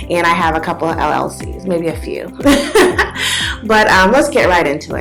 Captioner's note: laughs